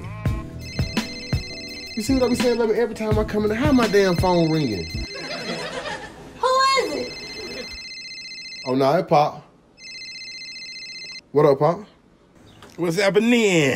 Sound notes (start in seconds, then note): 0.6 phone rings; 6.4 yells; 6.7 phone ringing